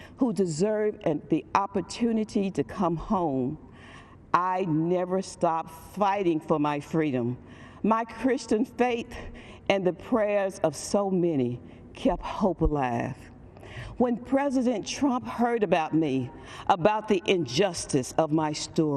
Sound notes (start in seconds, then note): none